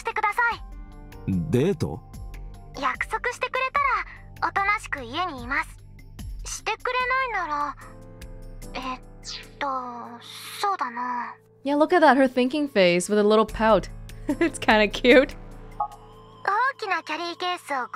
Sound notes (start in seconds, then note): 14.0 chuckles